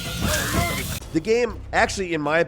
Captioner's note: yelling